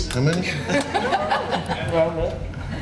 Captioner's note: laughing